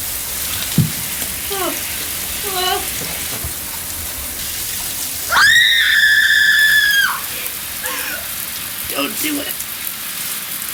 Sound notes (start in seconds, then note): 0.0 shower running; 5.3 girl screams